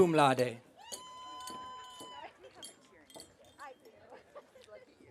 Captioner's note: audience cheering